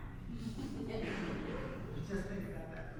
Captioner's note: audience laughs